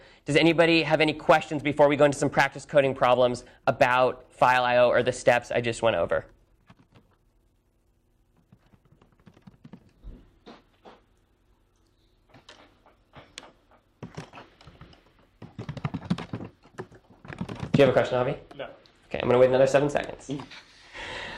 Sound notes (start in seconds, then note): 13.9 typing sounds